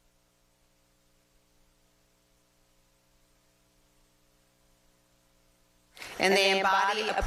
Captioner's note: applause